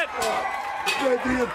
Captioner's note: bell ringing